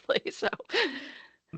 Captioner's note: laughing